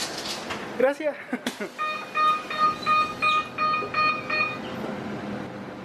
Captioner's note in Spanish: sonido de cierre de puertas